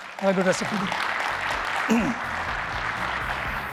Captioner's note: applause